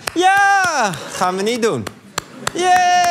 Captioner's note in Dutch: applaus